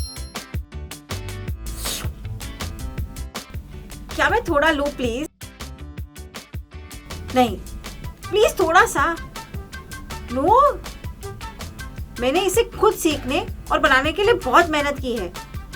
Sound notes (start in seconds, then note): 1.6 mouthwatering - sound